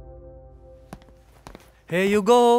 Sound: footsteps

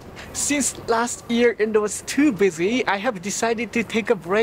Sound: none

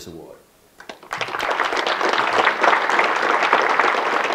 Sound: audience clapping

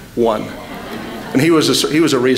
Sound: laughter

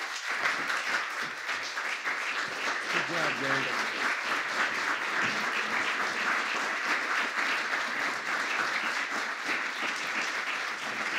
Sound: applause

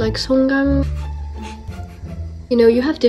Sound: is laughing

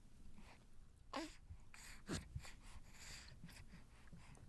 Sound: baby grunting

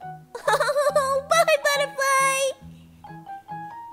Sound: laughs

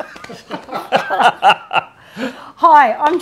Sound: both laughing

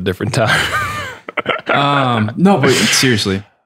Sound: laughs

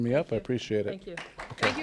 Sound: applause

